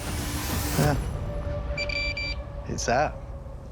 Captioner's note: beeping